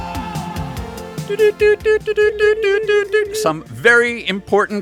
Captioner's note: morse Code noises